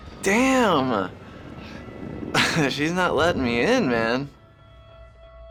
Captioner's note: chuckles